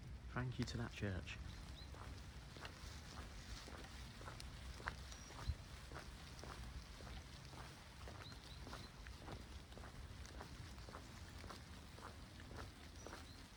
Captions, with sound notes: thank you to that church (Footsteps) (Birdsong)